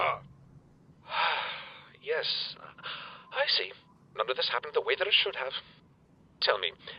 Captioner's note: sigh